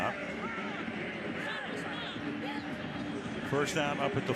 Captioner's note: pa announcement